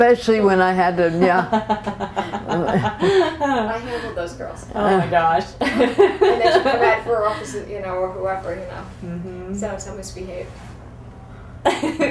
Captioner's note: laughter